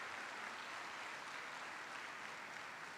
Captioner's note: applause